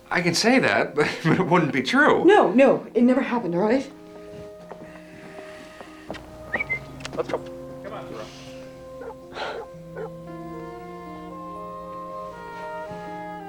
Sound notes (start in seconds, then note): 5.7 tom whistles; 8.2 thoreau barks